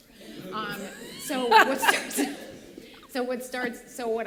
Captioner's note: laughter